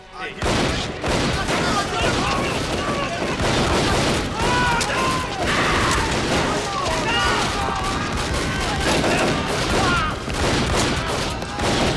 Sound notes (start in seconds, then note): 0.5 gunfire clattering; 1.5 people screaming